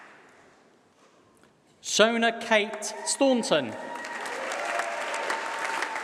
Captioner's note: applause